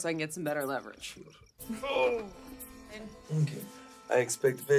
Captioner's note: Radovan groans